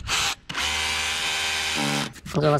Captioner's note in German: bohren